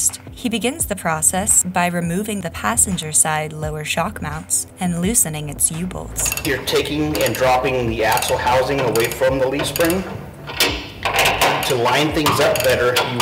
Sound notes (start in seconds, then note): 10.2 metal wrenching